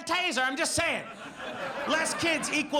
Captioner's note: audience laughs